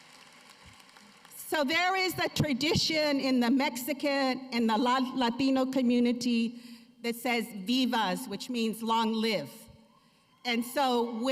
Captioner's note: cheers and applause